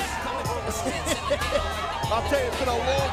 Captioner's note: Tazz laughing